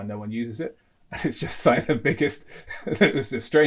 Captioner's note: laughs